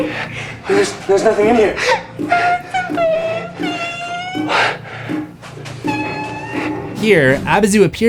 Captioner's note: cries